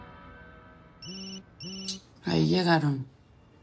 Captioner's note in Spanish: Suena un celular